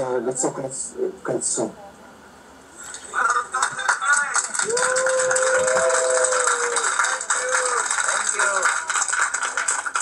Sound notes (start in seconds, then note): 3.2 clapping and cheering